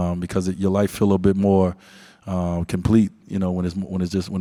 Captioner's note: none